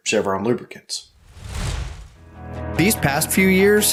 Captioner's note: logo whooshing